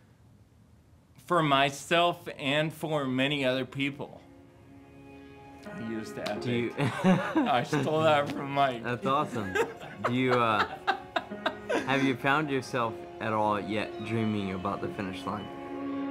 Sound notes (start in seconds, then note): 10.2 laughing